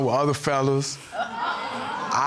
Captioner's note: audience exclaiming